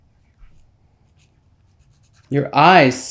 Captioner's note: nail file scraping